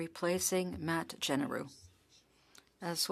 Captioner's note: speaking French